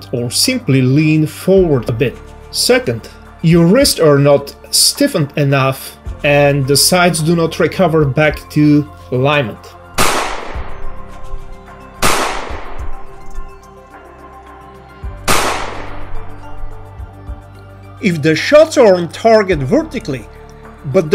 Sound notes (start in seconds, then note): 10.2 gun shooting